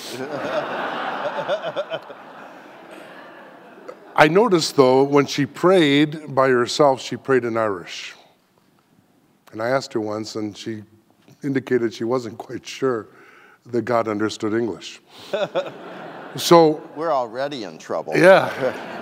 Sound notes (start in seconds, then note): 0.0 audience laughing; 15.4 audience laughing